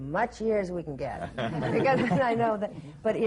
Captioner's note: laughter